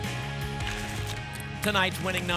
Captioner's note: tickets shuffling